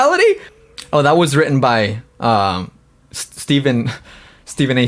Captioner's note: laughs